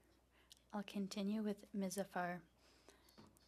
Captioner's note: speaking French